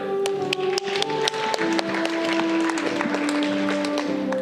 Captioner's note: audience clapping